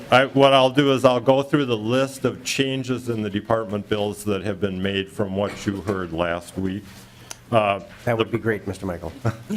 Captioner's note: lauging